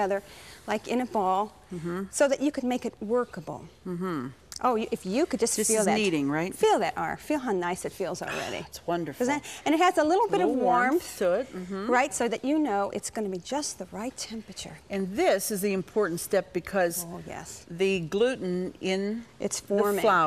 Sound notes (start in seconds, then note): 8.2 sighs